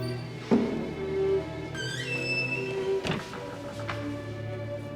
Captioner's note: door creaking